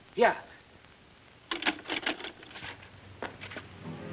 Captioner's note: phone clatters; ominous music